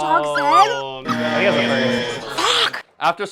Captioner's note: buzzer